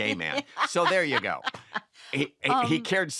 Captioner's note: laughter